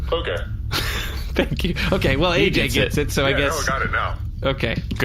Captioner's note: laughing